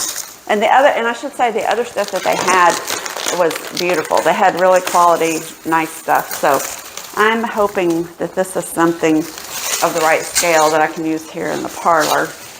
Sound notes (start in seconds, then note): none